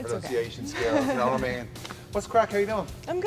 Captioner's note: chuckles